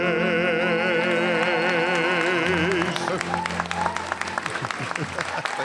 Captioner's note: laughs; applause and cheering